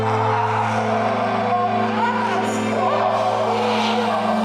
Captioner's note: creatures growl